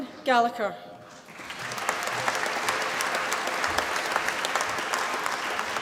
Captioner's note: applause